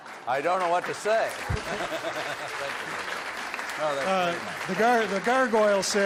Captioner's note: audience laughs; audience applauds